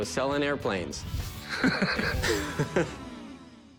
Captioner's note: laugh